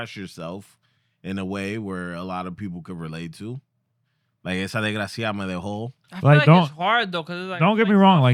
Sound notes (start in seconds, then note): 4.6 speaking In Foreign Language